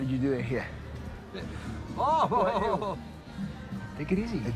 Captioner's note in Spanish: Risas